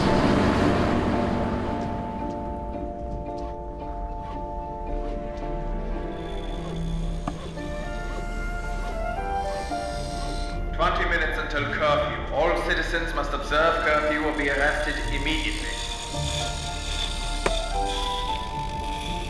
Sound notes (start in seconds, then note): 13.6 tools whirring; 15.4 gentle music